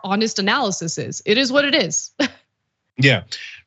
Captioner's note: laugh